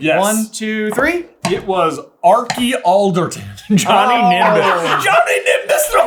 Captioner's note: dissolves into laughter